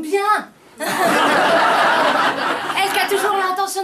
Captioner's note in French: rires